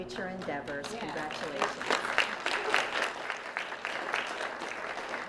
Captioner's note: applause